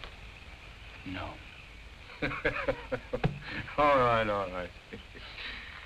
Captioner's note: laughs